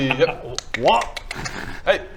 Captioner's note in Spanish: clic clic